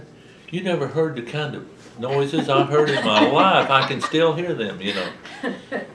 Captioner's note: laughter